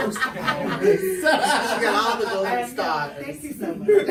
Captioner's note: everyone laughs